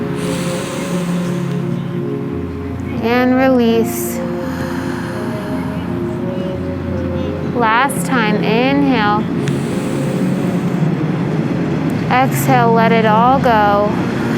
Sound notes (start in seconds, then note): 0.0 inhaling; 3.9 exhaling; 9.2 inhaling